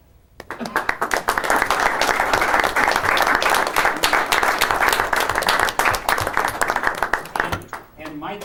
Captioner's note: applause